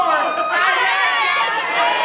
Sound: crowd

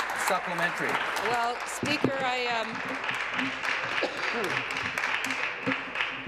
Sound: applause

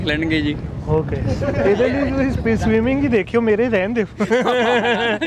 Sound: laugh

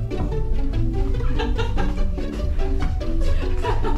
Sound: stumbling

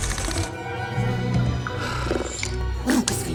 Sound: sighs

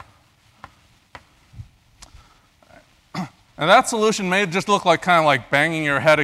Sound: cough

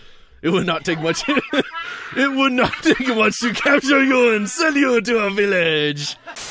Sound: laughter

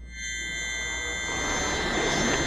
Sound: humming of death

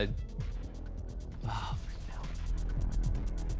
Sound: sighs

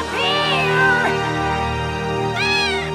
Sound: yelling; meowing

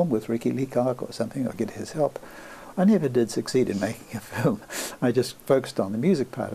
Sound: laughs

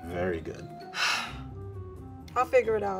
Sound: sighs

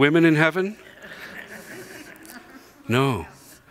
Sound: congregation chuckles

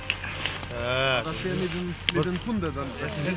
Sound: people chattering

